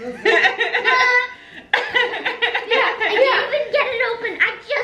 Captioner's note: everyone laughs